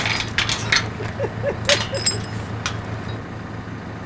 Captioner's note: laughing